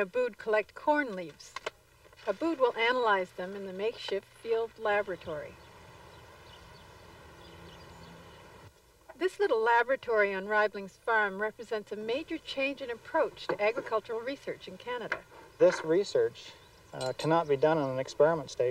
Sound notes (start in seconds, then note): 8.0 birdsong